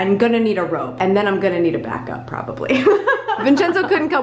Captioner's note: laughs